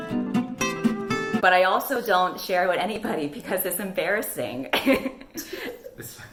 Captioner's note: laughs